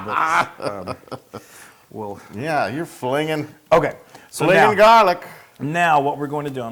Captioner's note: laugh